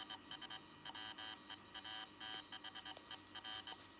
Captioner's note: Zumbindo, clicando em Continuar